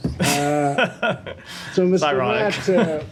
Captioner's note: laughter